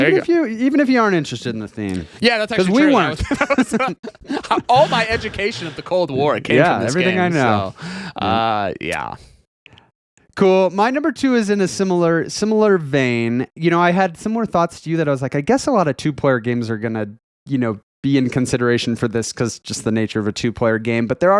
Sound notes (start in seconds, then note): 2.6 laughing